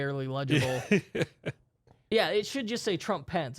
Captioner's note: softly chuckling